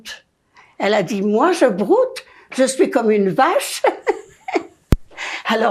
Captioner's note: laughing